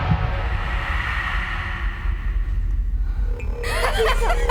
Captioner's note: wind whooshes; dramatic musical score; Abby laughs